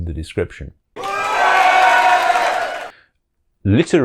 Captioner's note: applause